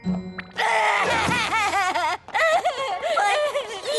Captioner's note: bawling